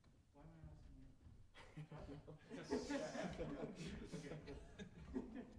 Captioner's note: laughter